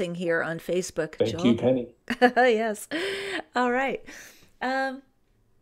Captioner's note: chuckles